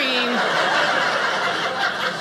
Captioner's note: audience laughing